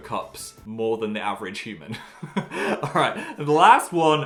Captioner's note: laughs